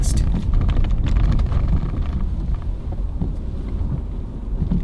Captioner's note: car rumbling